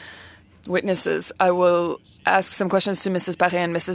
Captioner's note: speaking French